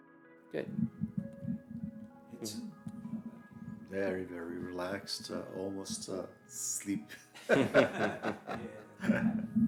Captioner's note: laughter